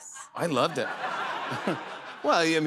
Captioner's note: laughter